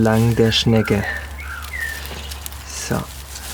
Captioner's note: birds chirping